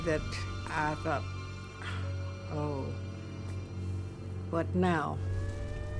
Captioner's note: sighs; siren wailing